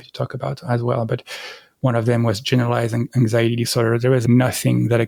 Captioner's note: breath